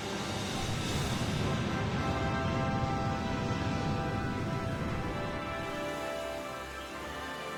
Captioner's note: waves crashing